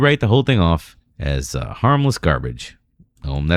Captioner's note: uh